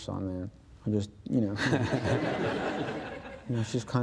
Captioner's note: audience laughs